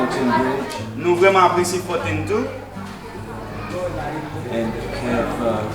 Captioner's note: speaking in foreign language